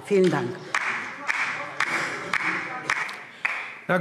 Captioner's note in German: Vereinzelter Beifall DIE LINKE